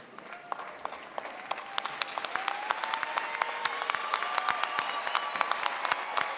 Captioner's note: applause